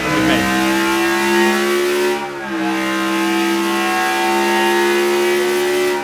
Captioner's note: engine roaring continues